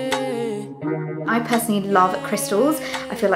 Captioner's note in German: Langsame Musik; englisch